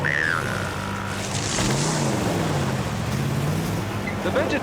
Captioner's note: engine revving